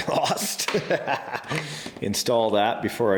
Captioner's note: chuckles